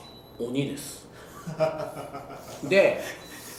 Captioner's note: laughs